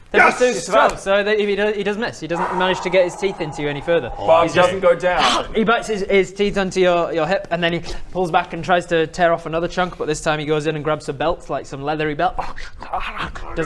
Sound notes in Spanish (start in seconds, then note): 2.3 suspiro de alivio